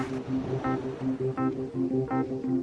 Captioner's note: waves on shore